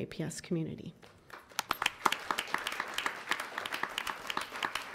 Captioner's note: applause